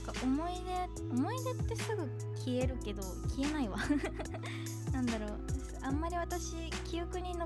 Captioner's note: laughs